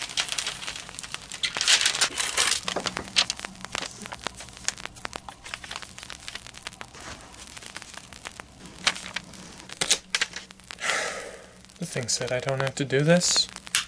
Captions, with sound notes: *sigh* The thing said I don't have to do this...